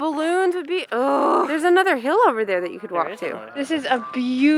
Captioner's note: frustrated noises